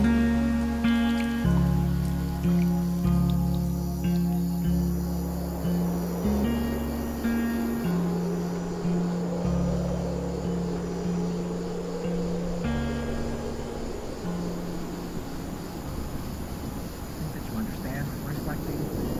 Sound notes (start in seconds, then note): 3.2 thunderstorm ends; 6.2 wind